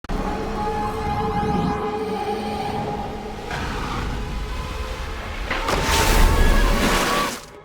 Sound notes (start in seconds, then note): 0.2 eerie whining